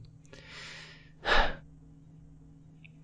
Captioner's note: sigh